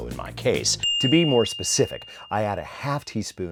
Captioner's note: ding SFX